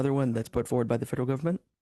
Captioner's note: speaking French